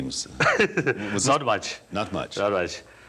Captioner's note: laughs